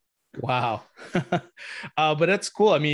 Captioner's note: laughs